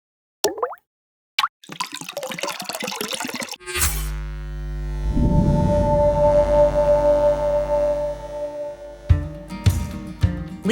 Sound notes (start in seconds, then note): 0.5 water dripping; 3.7 electric surge; 9.2 upbeat music